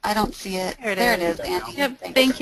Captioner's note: voiceover